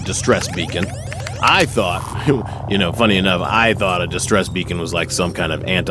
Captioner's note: laughs